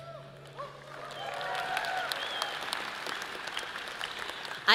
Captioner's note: audience cheers and applause